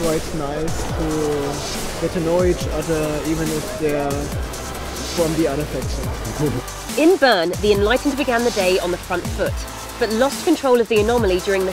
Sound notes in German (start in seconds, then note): 6.2 lacht